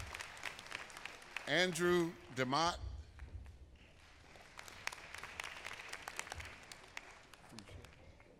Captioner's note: applause